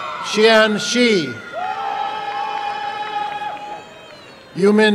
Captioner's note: applause and cheering